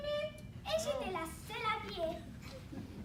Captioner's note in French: rires